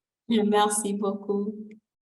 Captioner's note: speaking french